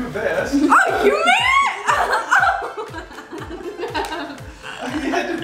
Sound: laughs

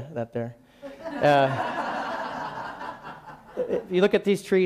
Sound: laughing

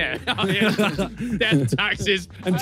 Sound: laughs

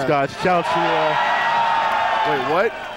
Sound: crowd cheering

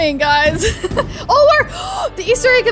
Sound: gasps

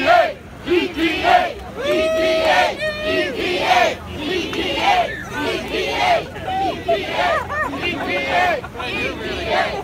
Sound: crowd chanting

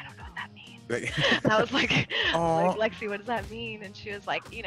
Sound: laugh

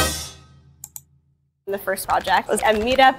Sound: mouse clicking

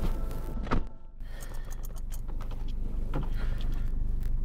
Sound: car door shuts

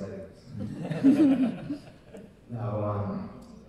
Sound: audience laughing

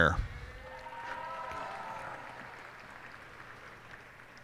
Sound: cheers and applause

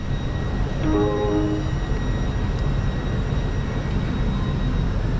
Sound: door chime sounds

